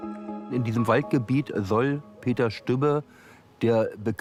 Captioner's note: in German